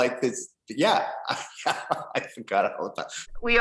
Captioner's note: laughs